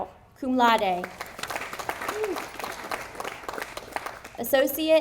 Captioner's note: audience applauding